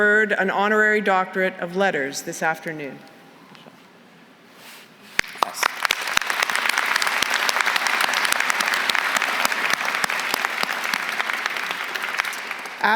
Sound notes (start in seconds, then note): 5.2 applause